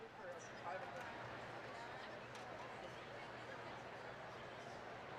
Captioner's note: none